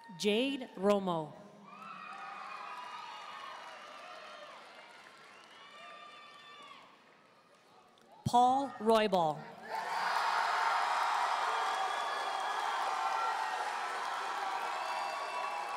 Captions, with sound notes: Jade Romo. (audience cheering and applauding) Paul Roybal. (audience cheering and applauding)